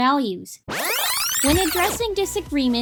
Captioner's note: tape Rewinding